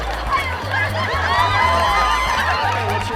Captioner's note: audience cheering